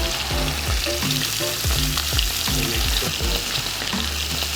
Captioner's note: sizzling